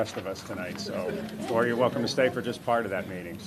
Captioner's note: laughter